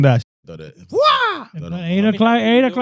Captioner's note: yells